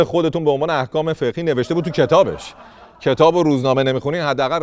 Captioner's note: laughter